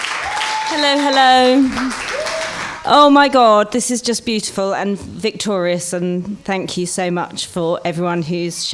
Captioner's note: applause